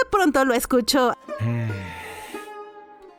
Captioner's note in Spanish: Suspiro